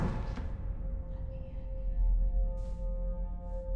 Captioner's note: whispering voices